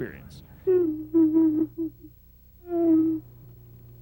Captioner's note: sobbing